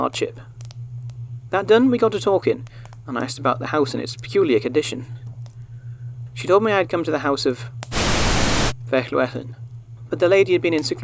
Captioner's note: static